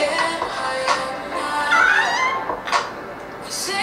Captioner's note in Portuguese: gritos